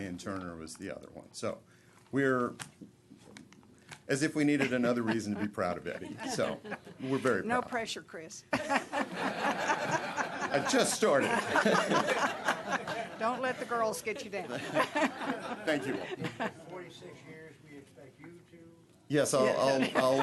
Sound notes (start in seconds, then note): 8.5 laughter